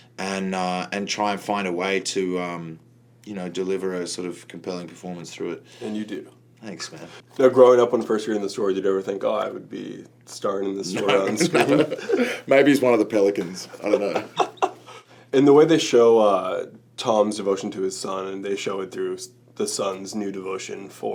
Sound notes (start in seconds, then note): 10.9 laughs; 13.6 laughter